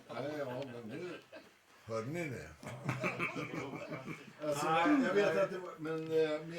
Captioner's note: laughter